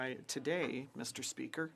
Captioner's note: speaking French